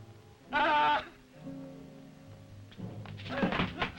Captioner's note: Bruno shouts